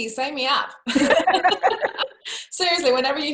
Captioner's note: laughs